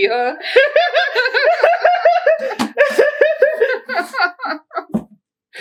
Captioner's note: LOLs all around